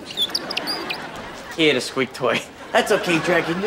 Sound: squeaking

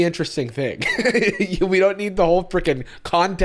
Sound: laughs

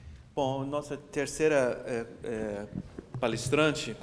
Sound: speaking portuguese

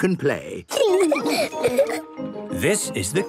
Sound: laughing

